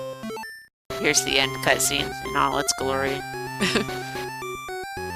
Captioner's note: laughs